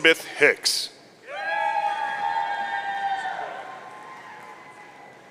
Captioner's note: audience cheering